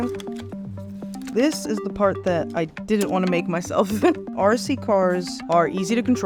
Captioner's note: laugh